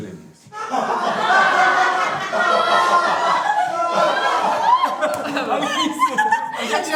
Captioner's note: laughs